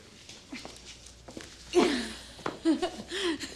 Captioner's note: kerry chuckling